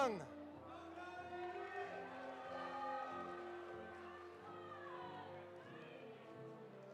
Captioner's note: audience applauding; audience cheering